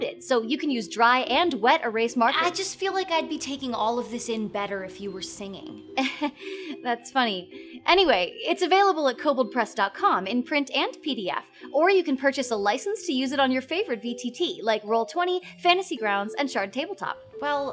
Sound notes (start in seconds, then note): 6.0 chuckles awkwardly